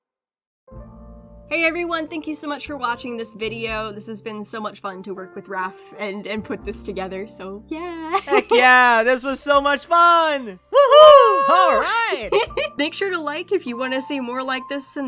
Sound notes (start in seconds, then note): 8.1 laughs